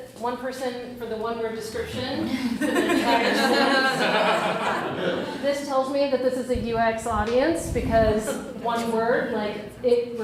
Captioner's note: crowd laughs